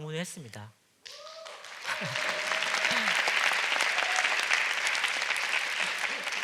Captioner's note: applause